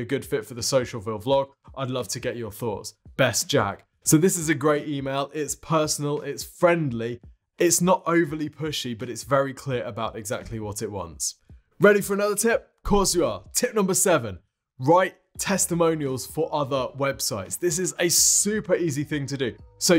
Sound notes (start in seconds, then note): none